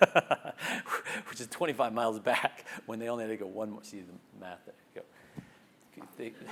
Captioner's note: laugh